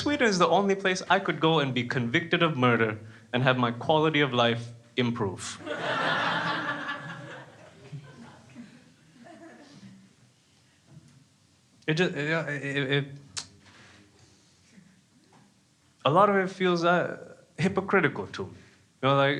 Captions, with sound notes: Sweden's the only place I could go and be convicted of murder and have my quality of life improve. (crowd laughing) A lot of it feels hypocritical to me,